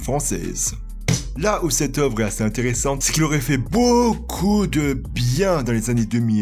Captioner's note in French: clap